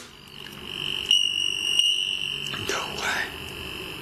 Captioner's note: device beeping